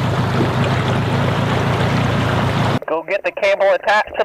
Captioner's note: boat engine revving